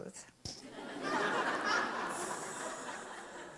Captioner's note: audience laughs